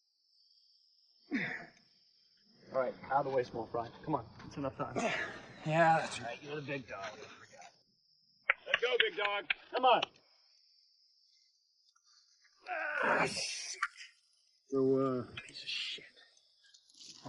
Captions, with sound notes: All right, outta the way, small fry. Come on, that's enough time. - Yeah, that's right, you're the big dog. I forgot. (clapping) Let's go, big dog. Come on. - (groaning) Shit. - So uh ... - Pice of shit.